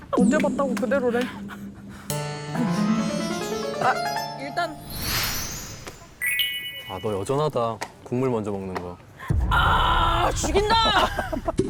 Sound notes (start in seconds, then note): 4.9 back to dream mode sound effect